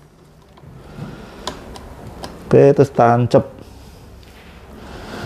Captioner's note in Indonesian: suara damper dipasang